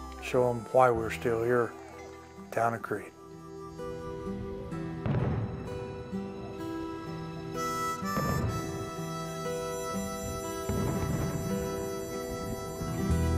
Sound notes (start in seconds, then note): 5.2 popping fireworks; 8.4 harmonica music